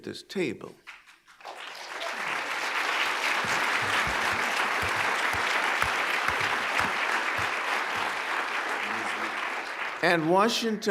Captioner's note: applause